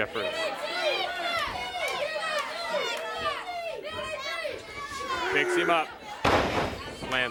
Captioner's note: crowd cheering